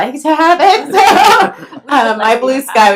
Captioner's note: laughs